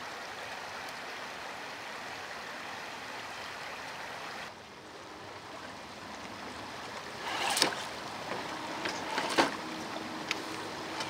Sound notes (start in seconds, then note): 6.9 splashing